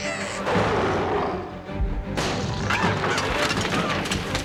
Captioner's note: Tasha babbles; Scarface roars and bashes treehouse; shelves clatter